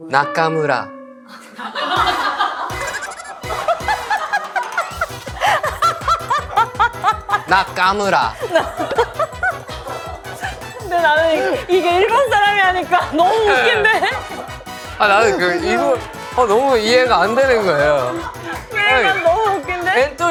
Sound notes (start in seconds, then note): 8.9 cracking up